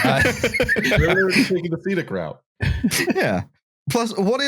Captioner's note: laughter